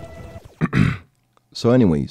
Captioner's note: clears throat